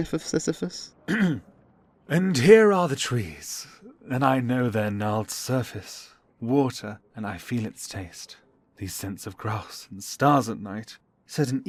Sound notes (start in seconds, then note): 1.0 clears throat